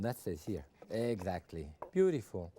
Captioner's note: knife chopping